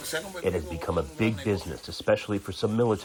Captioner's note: through translator